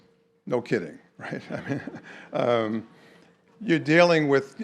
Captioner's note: chuckles